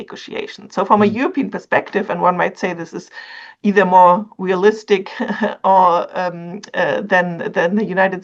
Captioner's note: laughs